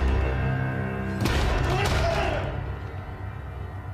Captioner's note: screams